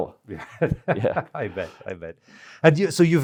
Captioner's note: laughs